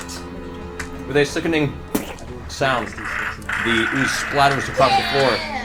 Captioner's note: splat